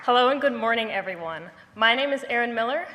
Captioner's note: none